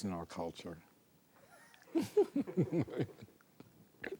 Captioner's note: laughs